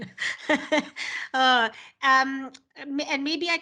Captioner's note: laugh